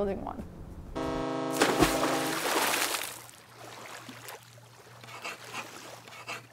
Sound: boat horn blasting; water splashing; chalk writing on chalkboard

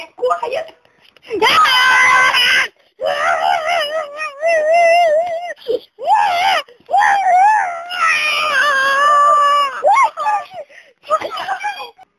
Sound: baboon attacking

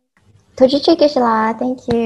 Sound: foreign language

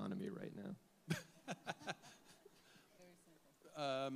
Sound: panelists chuckle

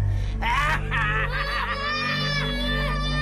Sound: kids shouting

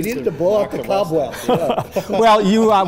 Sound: laughing

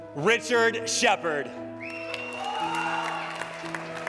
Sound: applause

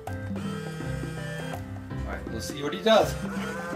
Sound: Monkey business machine whirring

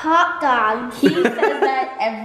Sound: laughs

